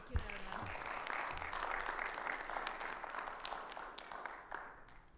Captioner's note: audience applauding